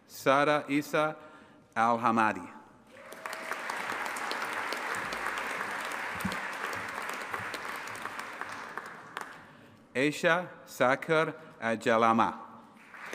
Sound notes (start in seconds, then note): 2.9 audience applauding and cheering